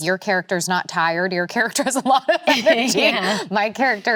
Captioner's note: laughs